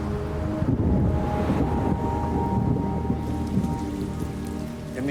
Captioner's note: thunder rumbling